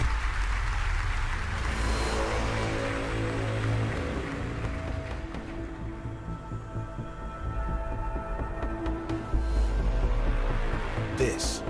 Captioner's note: applause